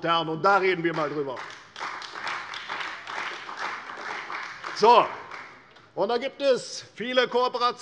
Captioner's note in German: Beifall bei der CDU und dem BÜNDNIS 90/DIE GRÜNEN